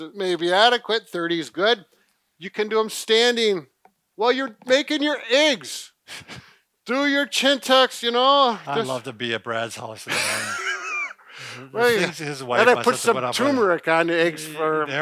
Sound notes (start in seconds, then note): 10.0 chuckles